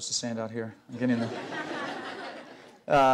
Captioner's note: laughter